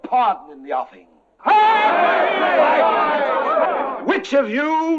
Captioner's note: all cheering